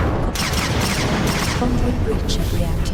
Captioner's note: lasers firing